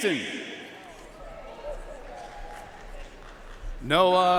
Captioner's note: audience cheering and applauding